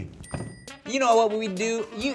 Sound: bell dinging

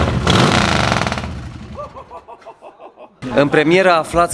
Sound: laughters

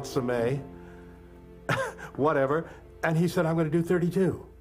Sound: laugh

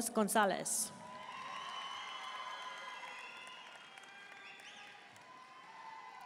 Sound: audience cheering and applauding

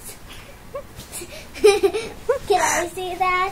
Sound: giggles

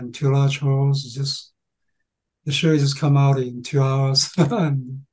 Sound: laughing

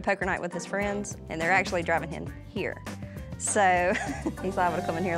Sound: chuckles

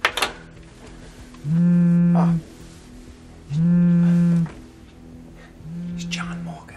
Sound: phone vibrates

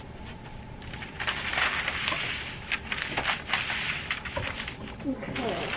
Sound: paper rustling

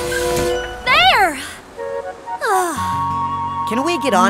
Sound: sighs

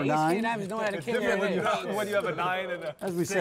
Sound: table chatter

